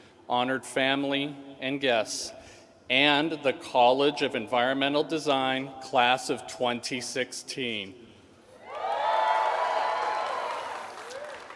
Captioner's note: cheering